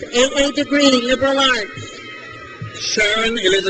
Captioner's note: crowd cheers